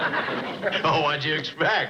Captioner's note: chuckles